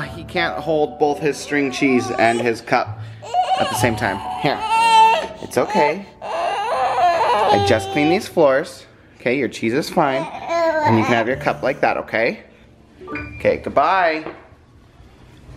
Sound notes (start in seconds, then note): 6.5 crying